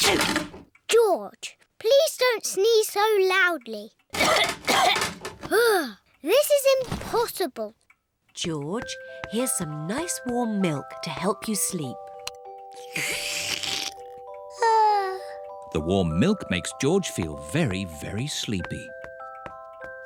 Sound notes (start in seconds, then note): 0.0 sneezes; 4.1 coughs; 14.9 yawns